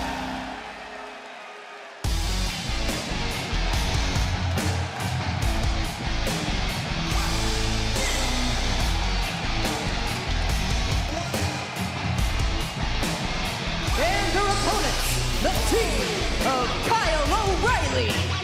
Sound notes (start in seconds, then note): 0.0 crowd cheering; 3.4 crowd cheering